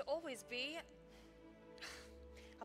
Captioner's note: sighs